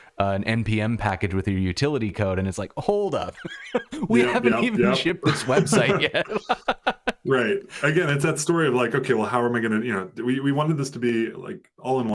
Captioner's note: laughter